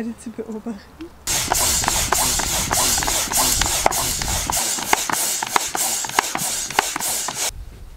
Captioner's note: noise from the air pump